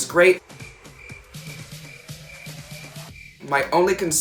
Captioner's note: crickets chirp